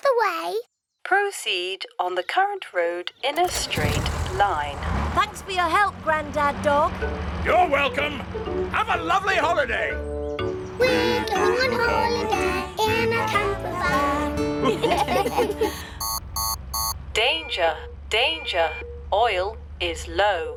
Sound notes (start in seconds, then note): 14.6 laughter; 15.2 beeping